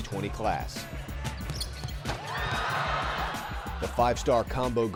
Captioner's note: dunk